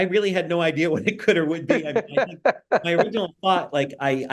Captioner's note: laughing